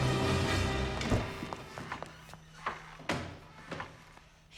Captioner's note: doors clatter